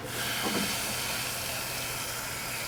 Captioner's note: water flows